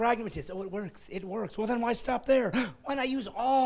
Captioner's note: laughing